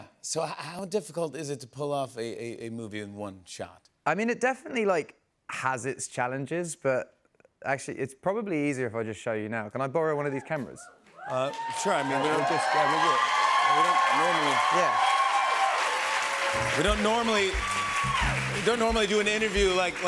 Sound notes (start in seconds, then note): 13.2 cheers and applause